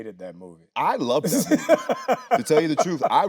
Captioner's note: Anthony laughing